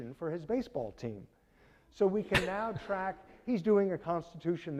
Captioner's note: audience laughing